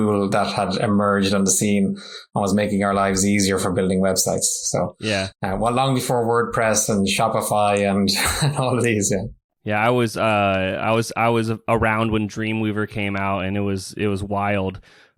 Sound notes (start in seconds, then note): 9.0 laughs